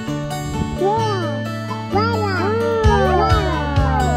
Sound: baby cooing

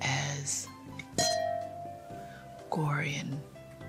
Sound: glasses clinking

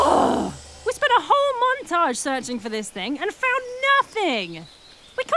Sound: Lucy groans angrily

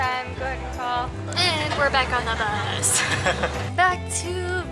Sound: laughter

